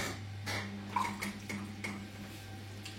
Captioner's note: rippling